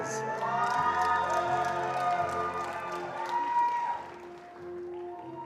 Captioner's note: attendees cheering and applauding